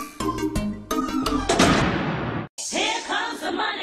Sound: door open

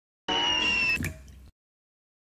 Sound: plop

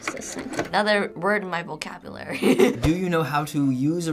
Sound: laughs

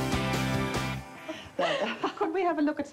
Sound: upbeat rock music; laughing

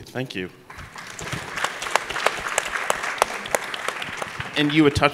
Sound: applause

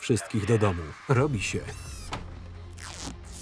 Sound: drone whirring

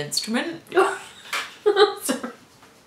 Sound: laughter

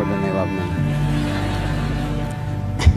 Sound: guests laugh

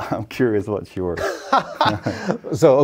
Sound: laughing

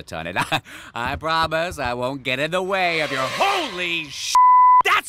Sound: beep

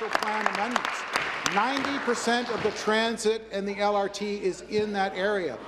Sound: applause

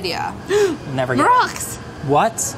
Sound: gasps

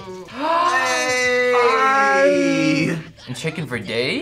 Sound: gasps

